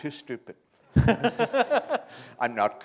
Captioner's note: chuckle